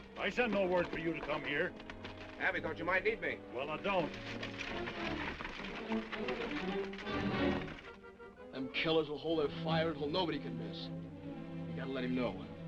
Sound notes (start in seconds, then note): 5.1 horse hooves clopping